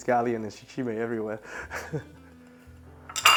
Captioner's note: chuckles